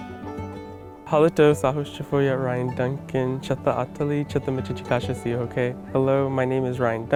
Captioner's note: speaking native language